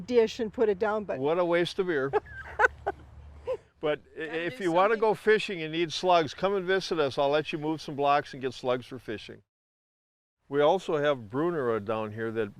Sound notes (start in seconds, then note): 2.0 laughs